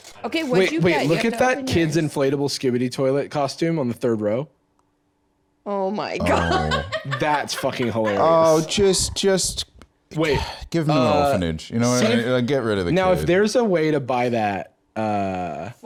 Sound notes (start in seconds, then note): 6.2 laughs; 10.2 sighs